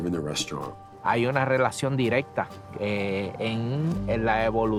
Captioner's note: speaking Spanish